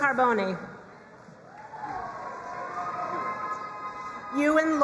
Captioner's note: crowd cheering and applauding